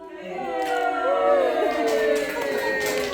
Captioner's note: cheering, applause